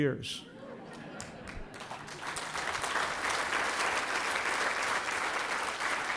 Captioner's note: applause